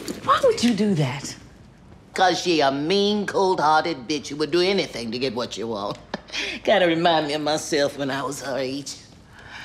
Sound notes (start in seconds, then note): 5.9 laughing